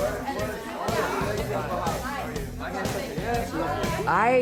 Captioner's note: busy chatter